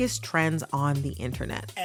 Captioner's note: soundbite of archived recording